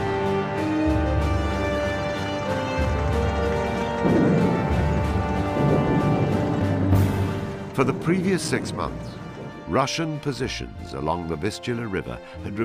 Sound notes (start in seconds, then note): 0.3 intense dramatic music continues; 3.6 explosions booming